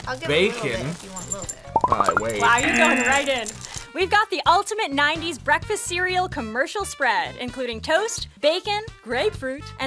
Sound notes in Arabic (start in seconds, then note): 1.7 طنين الجرس